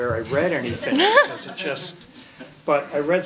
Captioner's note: laughing